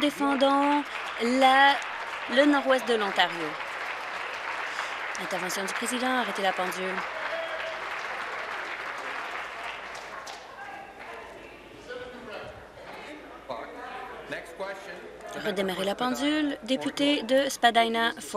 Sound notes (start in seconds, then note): 6.8 some Applause